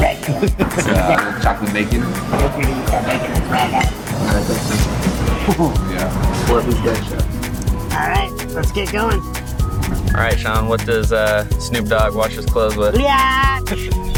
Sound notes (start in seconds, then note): 5.6 chuckles; 13.9 upbeat music